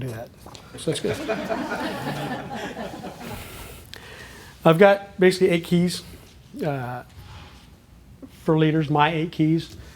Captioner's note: laughter